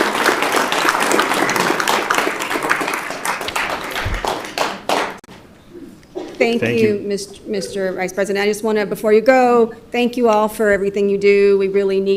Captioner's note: applause